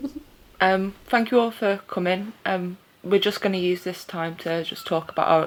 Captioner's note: laughter